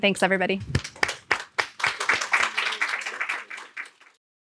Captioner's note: audience clapping